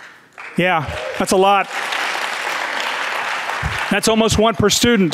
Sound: audience clapping

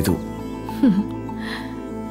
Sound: chuckles

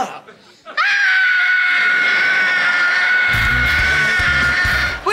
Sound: screaming

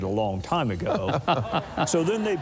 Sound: laughter

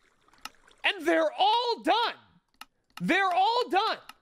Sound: mouse clicking; mouse clicking

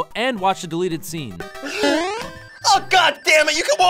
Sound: boing!

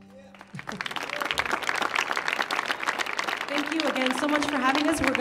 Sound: audience cheers and claps

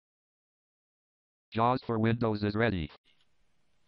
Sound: JAWS Screen Reader Voice

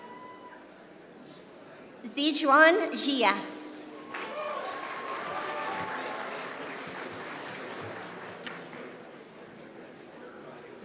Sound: applause

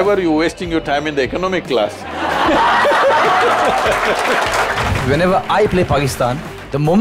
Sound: laughter/Applause

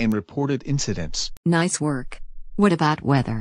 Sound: voice-over

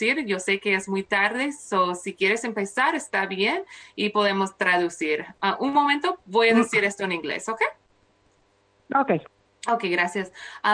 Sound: speaking spanish

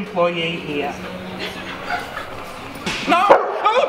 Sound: laughing

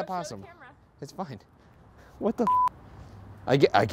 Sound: beep

